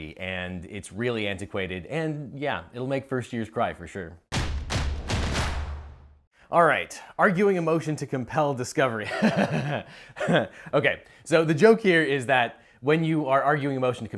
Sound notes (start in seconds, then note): 4.3 drums beat; 10.2 laughs